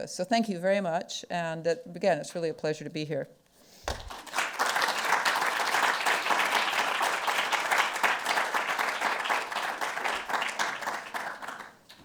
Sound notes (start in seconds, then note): 3.9 audience applauding